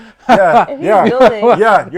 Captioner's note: laughing